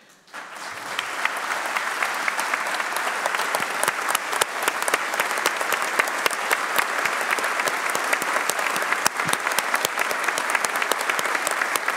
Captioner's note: applause